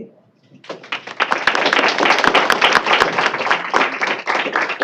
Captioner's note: applause